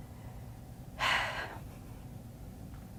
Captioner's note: sighs